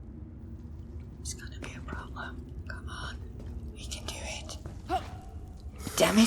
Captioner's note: whispers